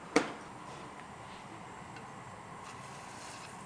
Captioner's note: ambient kitchen noise